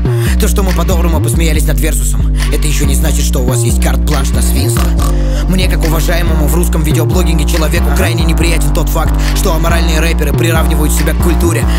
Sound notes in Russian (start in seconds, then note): 4.8 Хрю-хрю